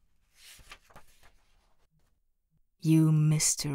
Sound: pageturning sound

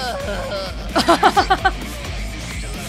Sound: chuckles

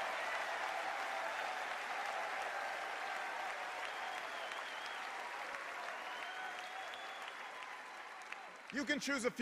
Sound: cheers and applause

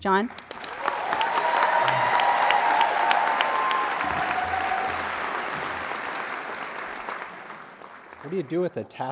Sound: applause

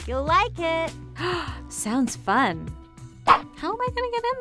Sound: gasps

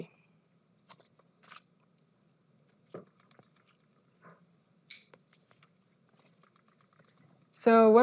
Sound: silence

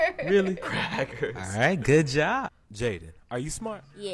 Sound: chuckles; laughs

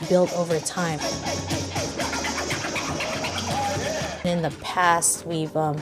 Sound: record scratching

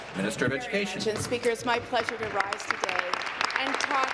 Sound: applause

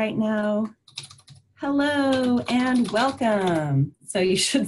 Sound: keyboard clacking

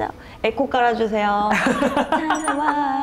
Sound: laughing

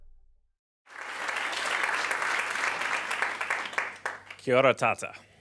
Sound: audience clapping

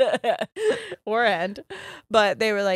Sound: laughs

